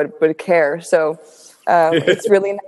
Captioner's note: Virgil giggles